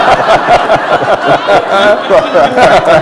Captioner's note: laughter